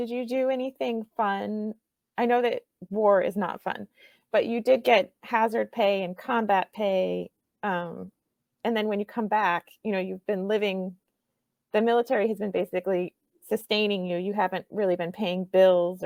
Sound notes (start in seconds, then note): none